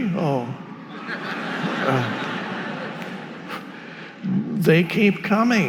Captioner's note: audience laughing